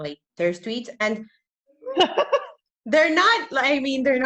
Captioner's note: laughs